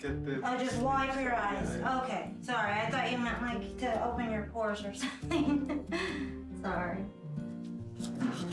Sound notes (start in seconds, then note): 5.0 chuckling